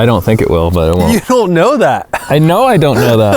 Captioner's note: laughs